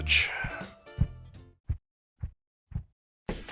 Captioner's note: footsteps